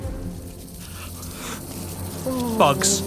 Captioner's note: bodies thudding; insects buzzing